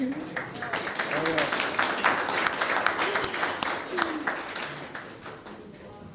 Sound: applauding

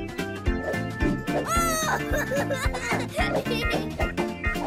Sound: laughing

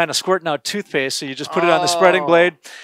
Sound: awes surprised

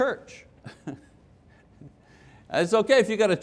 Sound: laughing

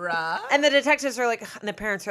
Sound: scoffs

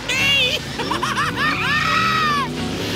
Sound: laughing

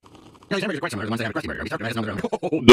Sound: fast speech and reverse

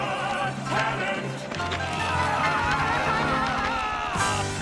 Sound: both yelling

